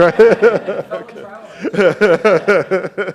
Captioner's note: faintly speaking; laughing; laughs